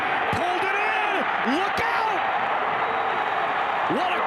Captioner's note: fans cheer